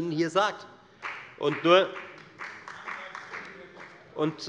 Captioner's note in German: Beifall bei der FDP